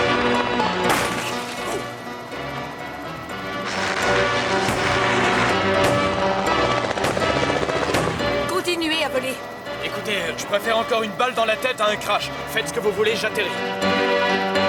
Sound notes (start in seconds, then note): 0.8 glass breaks